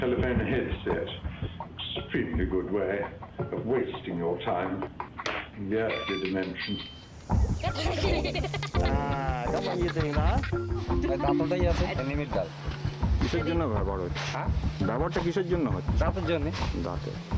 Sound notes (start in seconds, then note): 6.0 laughter; 7.8 man speaking native language